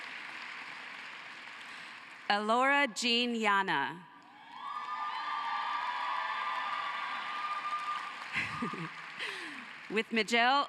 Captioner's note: cheering and applause